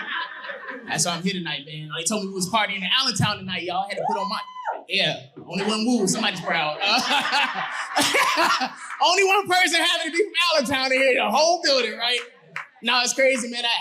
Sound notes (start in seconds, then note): 0.0 audience laughing; 4.0 woman cheers; 7.3 audience laughing